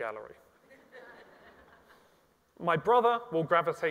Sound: audience laughs

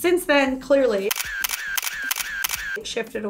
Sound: camera shutters

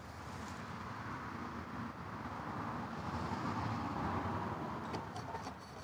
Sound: nearby traffic

